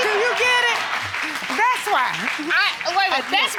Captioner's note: all clapping